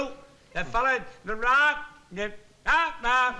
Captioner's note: speech fading in and out